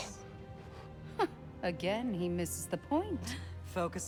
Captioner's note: laugh